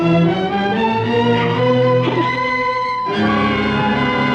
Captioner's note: sobs